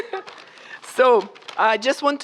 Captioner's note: laughter